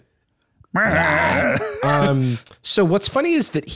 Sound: both making Muppet noises

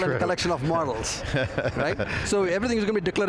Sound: laughing

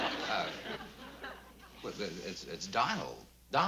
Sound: stammering

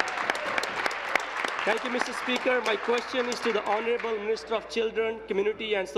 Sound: applause

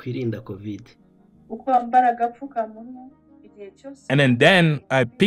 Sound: foreign language 00:11:14

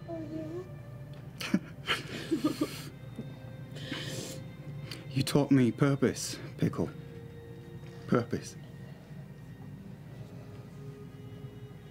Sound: chuckles

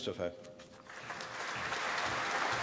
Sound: applause

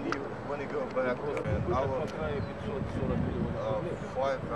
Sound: non-english speech

